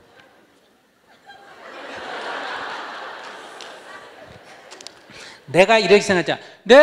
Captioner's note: audience Laughter